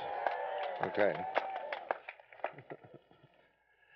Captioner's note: cheering